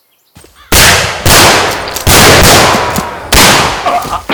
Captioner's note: gunshots firing